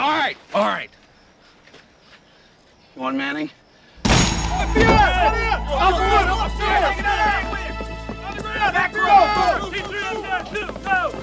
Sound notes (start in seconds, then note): 4.0 door thuds; 4.3 suspenseful music; 6.0 agents shouting; 6.0 suspenseful music